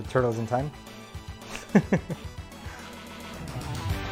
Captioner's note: laughs awkwardly